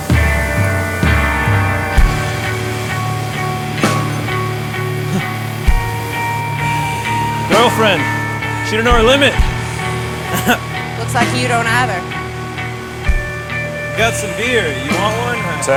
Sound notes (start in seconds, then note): 0.2 somber rock music continues; 4.8 boyfriend gasps